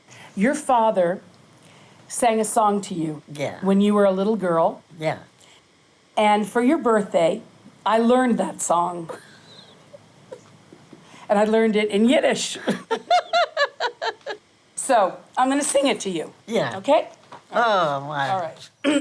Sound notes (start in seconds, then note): 12.6 laughs